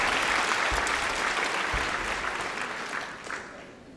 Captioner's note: applause